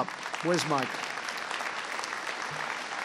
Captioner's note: applause